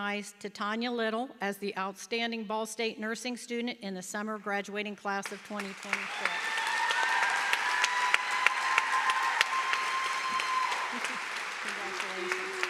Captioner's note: applause